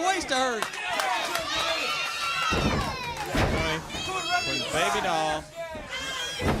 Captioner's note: crowd chatter